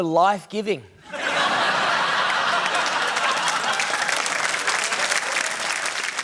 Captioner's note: laughter, applause